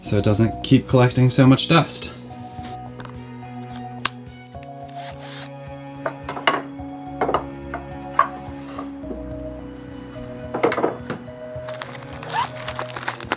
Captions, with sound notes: so it doesn't keep collecting so much dust. (drill buzzing) (boards clanking)